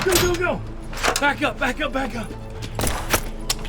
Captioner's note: gun firing